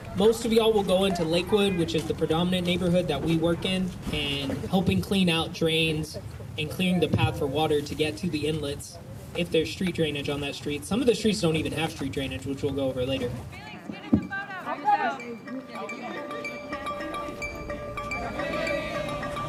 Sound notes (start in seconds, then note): 15.1 indistinct chatter